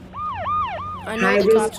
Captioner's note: sirens